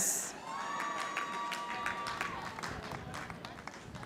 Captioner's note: audience applauding